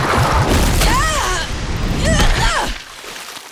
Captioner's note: groaning